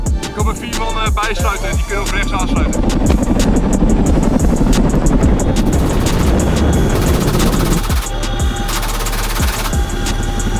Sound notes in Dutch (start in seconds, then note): 2.1 klappende helikopterwieken; 5.6 geweerschoten